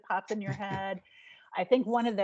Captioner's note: chuckling